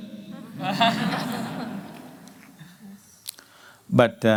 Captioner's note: laughter